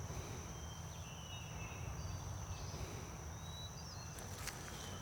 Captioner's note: birds singing